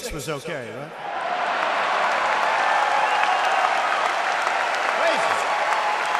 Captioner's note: applause